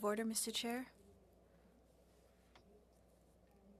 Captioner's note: speaking FRENCH